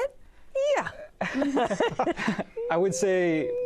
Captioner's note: laughter